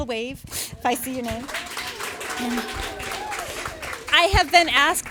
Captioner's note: audience applauding